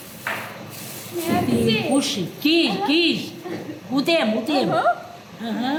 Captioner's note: speaking Armenian